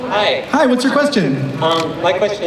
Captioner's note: voiceover